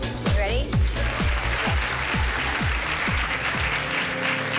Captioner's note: cheering and applause